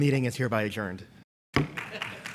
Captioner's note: bangs gavel once; applause